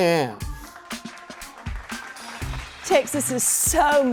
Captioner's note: audience clapping